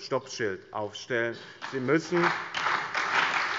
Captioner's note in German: Allgemeiner Beifall